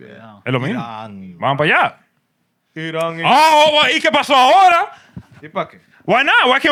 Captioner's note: speaking Spanish